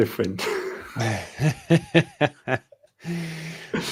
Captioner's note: laughter